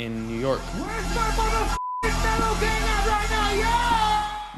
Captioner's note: crowd cheering